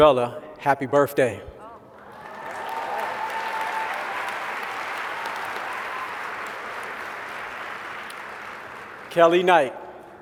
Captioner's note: applause